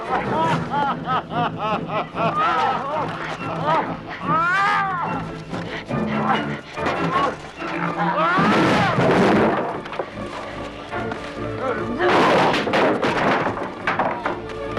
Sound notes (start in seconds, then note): 0.0 Landrazza laughing; 2.6 Hundra and guard shouting; 8.8 table clatters; 12.1 chair clatters